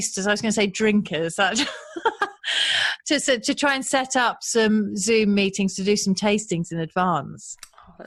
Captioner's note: laughs